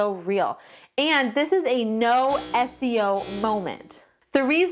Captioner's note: siren buzzing